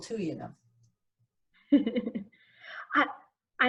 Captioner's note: chuckles